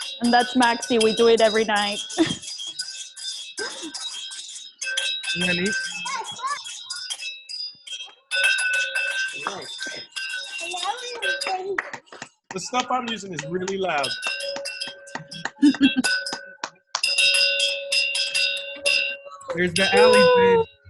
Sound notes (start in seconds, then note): 0.0 bells continue; 3.2 bells chime; 3.6 laughs; 11.2 clapping; 14.5 bells chime